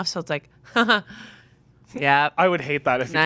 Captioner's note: chuckling